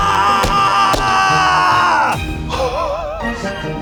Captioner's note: fireworks banging; laughing